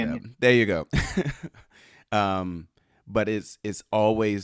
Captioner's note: chuckles